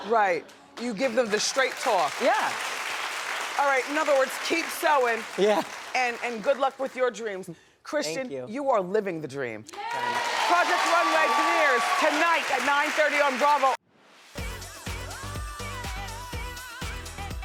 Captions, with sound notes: Right. You give them the straight talk. Yeah. (applause) All right, in other words, keep sewing. Yeah. And good luck with your dreams. Thank you Christian, you are living the dream. (applause) Project Runway premiers tonight at 9:30 on Bravo. (Upbeat music)